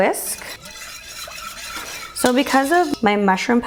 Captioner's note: whisks